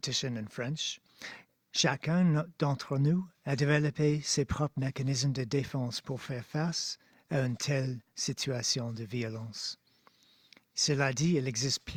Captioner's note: speaking French